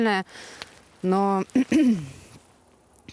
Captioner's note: coughs